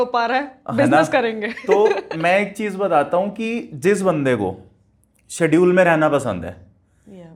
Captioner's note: laughs